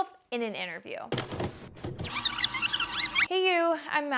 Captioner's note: tape rewinding